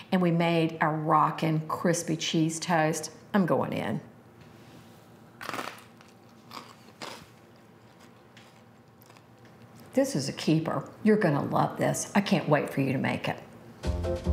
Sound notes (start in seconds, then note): 5.4 toast crunching